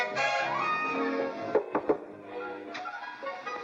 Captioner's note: knocks on door